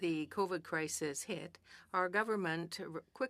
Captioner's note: speaking French